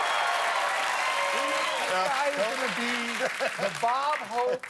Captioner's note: cheers and applause